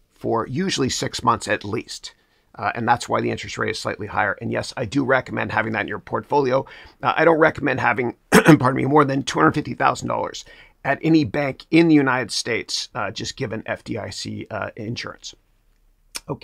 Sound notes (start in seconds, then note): 8.3 clears throat